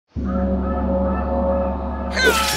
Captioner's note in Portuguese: repique de gongo